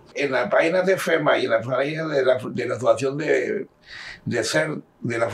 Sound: speaking in Spanish

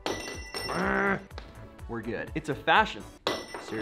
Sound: ring clinks on floor; ring clinks on floor

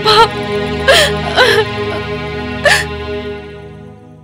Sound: sobbing

